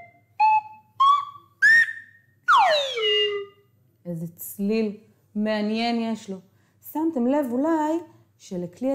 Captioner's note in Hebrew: צליל